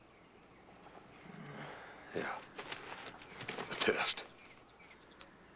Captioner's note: soft groan